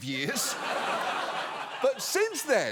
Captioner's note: audience laughs